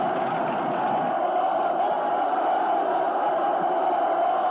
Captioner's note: shouting continues